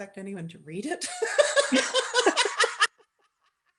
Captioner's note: laughter